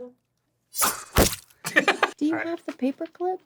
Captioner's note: dan throws reed, knife sound effect; dan laughs